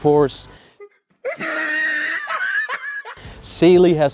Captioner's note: dry laugh